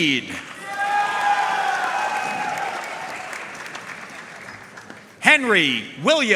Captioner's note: audience cheering and applauding